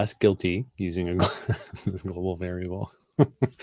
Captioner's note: laughs